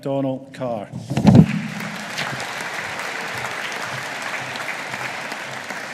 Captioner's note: audience applauding